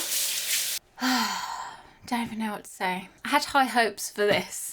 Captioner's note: sighing